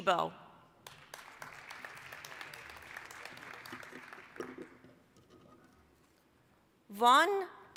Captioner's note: applause